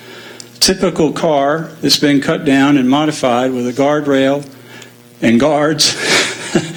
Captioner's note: laugh